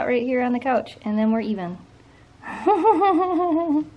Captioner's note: laughter